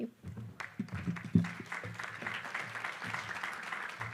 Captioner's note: applause